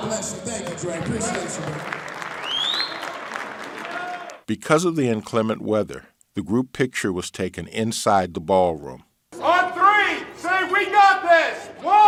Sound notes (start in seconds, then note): 2.5 audience applauds